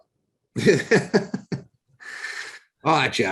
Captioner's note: laughs